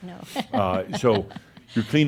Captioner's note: she chuckles